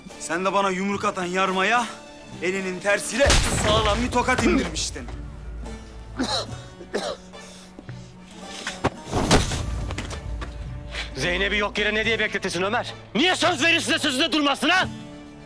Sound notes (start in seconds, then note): 6.1 coughing sound; 9.2 thump